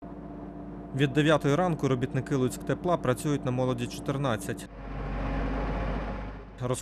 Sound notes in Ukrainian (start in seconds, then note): 0.1 Гул ремонтної техніки